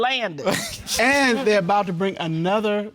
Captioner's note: laughs